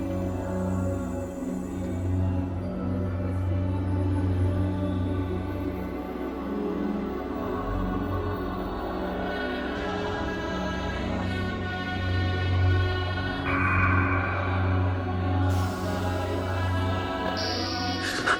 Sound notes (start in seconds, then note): 13.5 echoing raven cawing